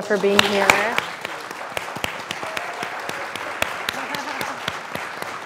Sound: people clapping

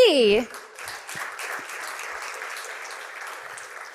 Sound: applause

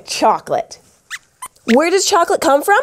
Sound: squeaks squeaks

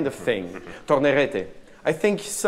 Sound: speaking in a foreign language

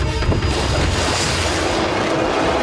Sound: splash

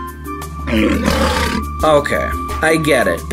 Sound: lion growling

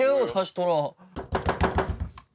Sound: knocking

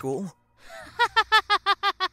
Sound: laughing

